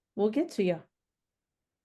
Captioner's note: silent pause